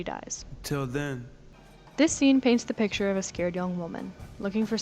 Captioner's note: disembodied Voice